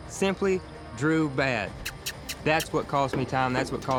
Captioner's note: makes squeaky sound